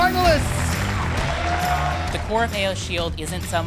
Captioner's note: applause